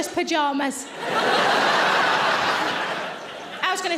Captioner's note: audience laughing